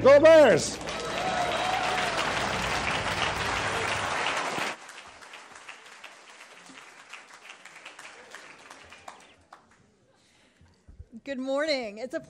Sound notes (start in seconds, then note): 0.4 attendees applauding and cheering